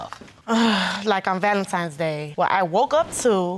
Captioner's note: exhales